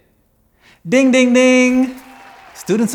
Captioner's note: crowd applauding